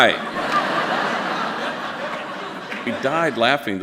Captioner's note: audience laughing